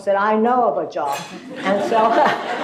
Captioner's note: laughter